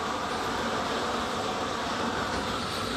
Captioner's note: hissing